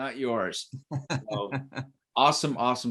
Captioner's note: laughing